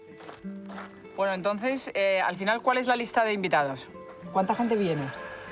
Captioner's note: speaking foreign language